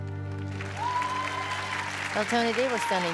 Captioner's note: applause